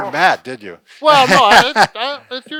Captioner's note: laughter